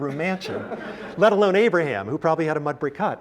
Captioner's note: laugh